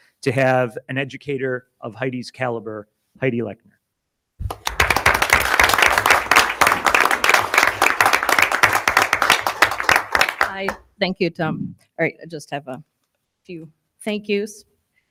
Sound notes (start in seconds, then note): 4.4 audience applauding